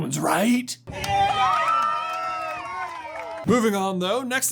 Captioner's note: wild applause